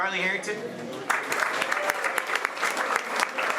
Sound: applause

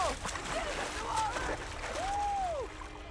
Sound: whooping

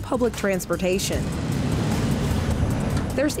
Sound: bus engine

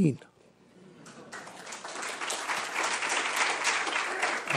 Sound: applause

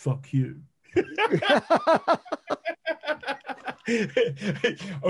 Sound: men laughing

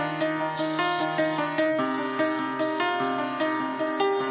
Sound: welding

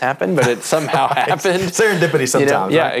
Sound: laughs

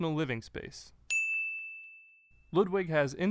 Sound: bell rings

